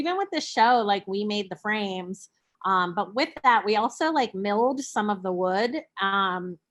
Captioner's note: none